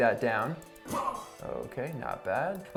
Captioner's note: grunts